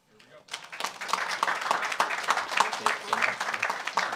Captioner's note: audience applauds